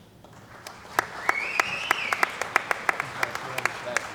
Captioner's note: cheering & Applause